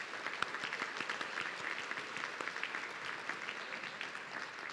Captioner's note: audience clapping